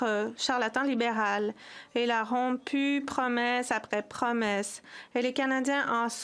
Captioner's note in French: voix de l'interprète